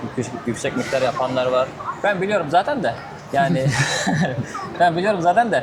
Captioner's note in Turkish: kahkaha